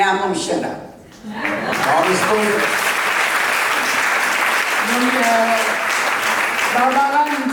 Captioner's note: people clapping hands